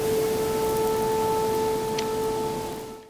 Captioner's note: sirens blaring